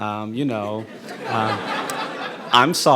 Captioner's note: audience laughing